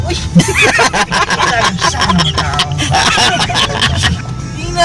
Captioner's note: laughing